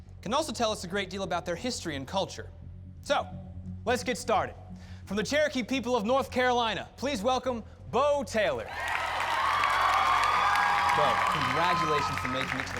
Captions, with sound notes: IT CAN ALSO TELL US A GREAT DEAL ABOUT THEIR HISTORY AND CULTURE. SO LET'S GET STARTED. FROM THE CHEROKEE PEOPLE OF NORTH CAROLINA, PLEASE WELCOME BO TAYLOR. [cheers and applause] BO, CONGRATULATIONS FOR MAKING IT